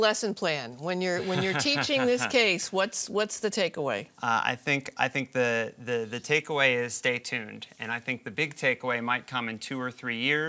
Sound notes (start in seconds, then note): 4.4 laugh